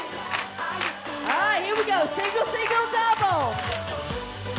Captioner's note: clapping